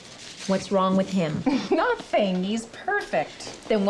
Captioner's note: chuckles